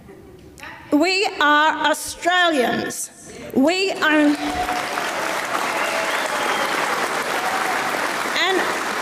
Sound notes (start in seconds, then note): 0.1 audience member laughs; 4.2 audience applauds